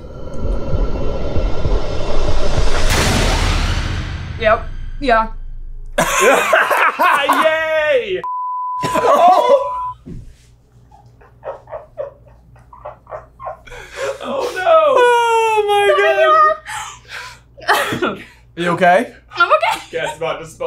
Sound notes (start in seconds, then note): 0.0 suspenseful music; 6.2 beeps; 6.2 laughing